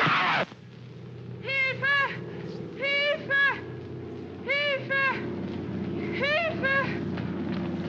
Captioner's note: aircraft rumbles overhead; Felix cries out; woman shouting in German; aircraft rumbles overhead